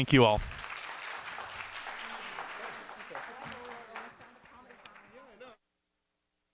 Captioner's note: applause